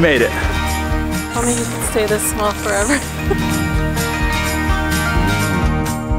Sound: upbeat music continues; laughing; upbeat music continues

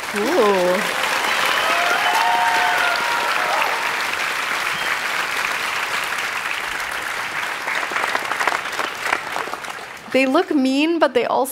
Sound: applause

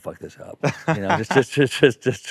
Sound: laughing

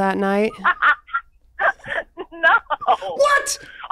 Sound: laughs

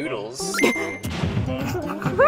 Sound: gasps; stifled laughter

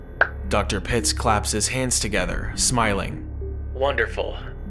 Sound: Dr. Pitts claps his hands together, smiling

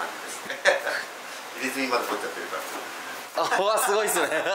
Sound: laughs

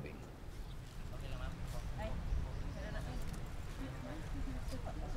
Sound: non-english speech

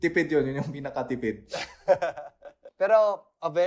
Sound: laughs

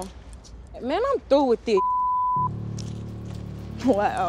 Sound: beep

